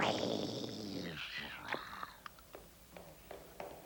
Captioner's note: snarling